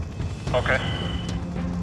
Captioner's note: man On Radio